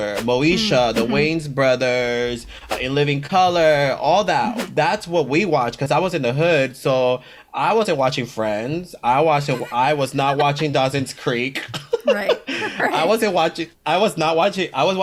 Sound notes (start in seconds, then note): 9.4 both laugh